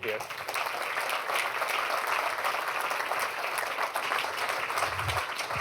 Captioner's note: applause